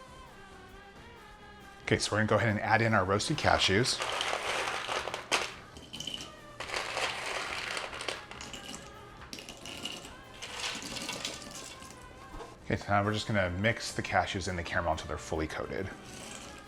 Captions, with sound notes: Okay, so we're gonna go ahead and add in our roasted cashews. (clattering) (clinking) Okay, so now we're just gonna mix the cashews in the caramel until they're fully coated.